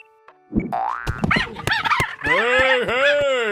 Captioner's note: sound of high pitched cheetah fight